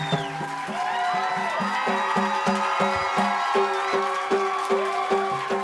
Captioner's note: applause and cheering continue